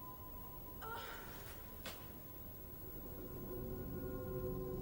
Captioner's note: Louise groans